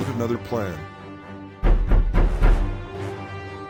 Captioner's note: knocking